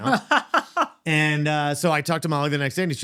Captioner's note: laughing